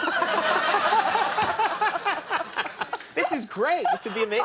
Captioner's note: audience laughing